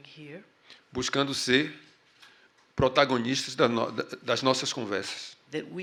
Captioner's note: speaking portuguese